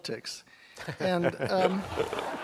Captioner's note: laughter